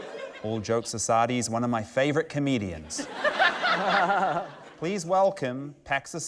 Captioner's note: laughter; laughter